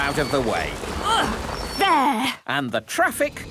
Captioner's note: grunts